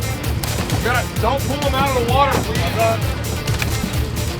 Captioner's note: murmuring